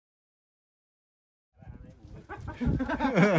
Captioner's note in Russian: смех